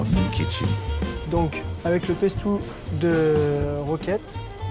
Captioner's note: speaks french